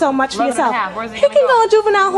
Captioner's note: overlapping chatter